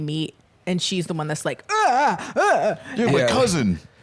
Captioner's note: horrified groaning